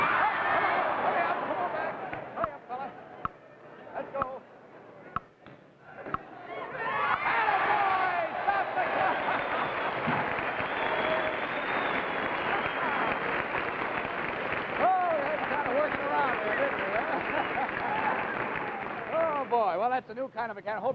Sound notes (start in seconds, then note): 9.4 crowd applauding